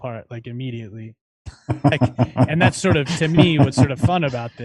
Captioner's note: laughter